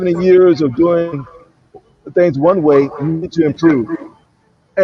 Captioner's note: sound wavers